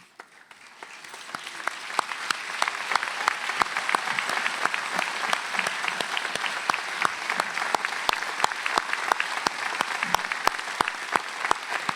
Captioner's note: applause